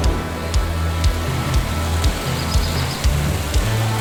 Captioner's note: water rushing